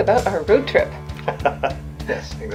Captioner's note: laughs